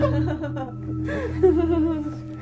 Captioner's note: laughter